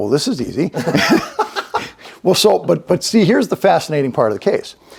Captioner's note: both laugh